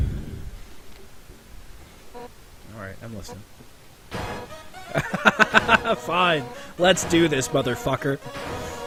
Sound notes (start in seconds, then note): 4.8 surprised laughter